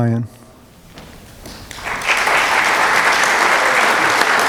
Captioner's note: applause